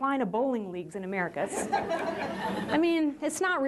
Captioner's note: laughter